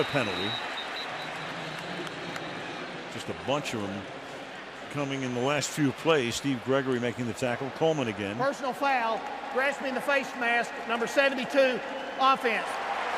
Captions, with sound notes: And another penalty. [pa announcement] Just a bunch of them coming in the last few plays. Steve Gregory making the tackle. Coleman again. Personal foul, grasping the face mask, number 72, offense.